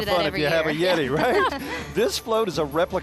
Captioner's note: laughing